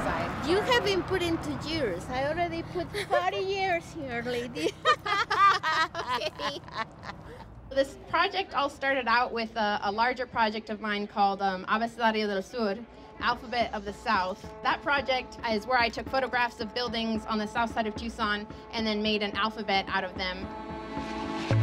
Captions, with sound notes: - You haven't put into years. I already put 30 years here lady. (laughing) - This project all started out with a larger project of mine called (speaks foreign language) Alphabet of the South. That project is where I took photographs of buildings on the south side of Tucson and then made an alphabet out of them.